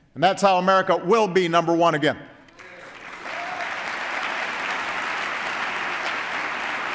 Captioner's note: applause